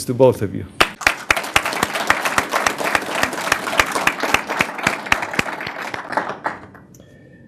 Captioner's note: applause